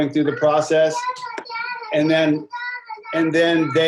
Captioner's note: child talking